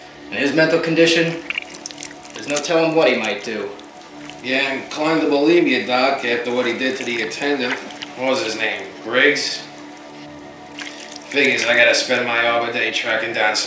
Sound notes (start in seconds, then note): 10.4 squish